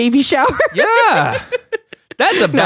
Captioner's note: giggles